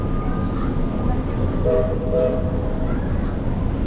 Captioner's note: steam whistles